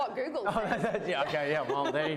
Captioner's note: laughs